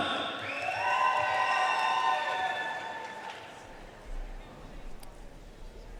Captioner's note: audience cheering and applauding